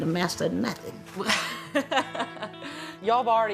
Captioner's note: laughs